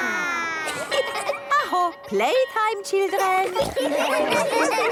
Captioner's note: school bell